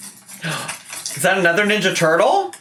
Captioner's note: gasps